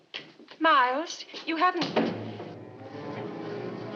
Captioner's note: door closes